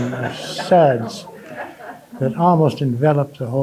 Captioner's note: audience laughing